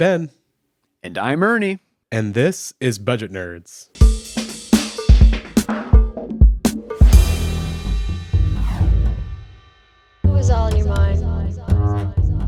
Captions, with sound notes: - Hi, I'm Ben. - And I'm Ernie. - And this is Budget Nerds. (upbeat music) - [Recorded Voice] Who is all in your mind?